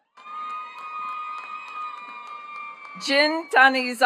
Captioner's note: attendees cheering and clapping